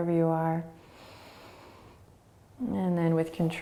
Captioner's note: inhaling